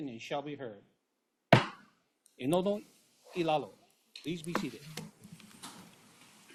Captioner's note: gavel bangs once